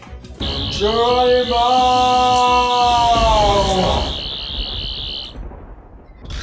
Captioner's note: buzzing and electric sparkling teleportation